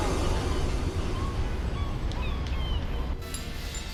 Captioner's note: seagulls cawing